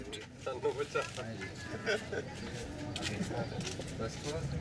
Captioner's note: people chattering